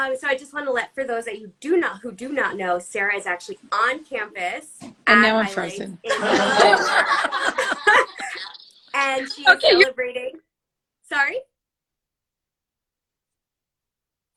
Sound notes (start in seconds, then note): 6.1 all laughs